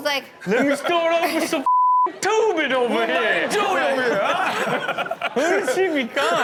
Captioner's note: beep